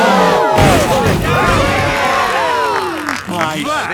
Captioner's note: crowd; applause